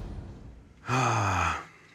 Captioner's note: sighs